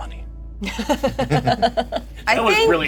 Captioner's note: laughter